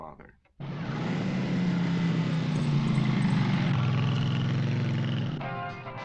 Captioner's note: motorcycle engine revving; rock music